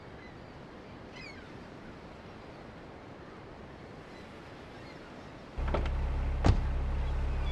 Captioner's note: engine revving